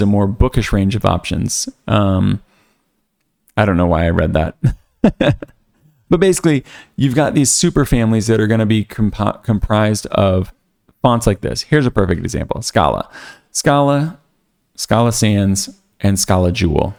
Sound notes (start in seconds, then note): 4.6 laughs